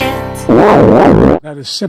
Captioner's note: loud & wavy fart